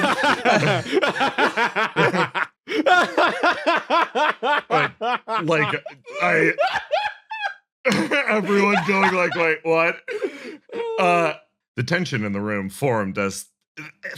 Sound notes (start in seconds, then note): 0.3 cackle; 7.9 laughing